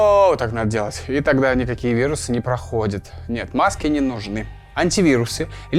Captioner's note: sarcasm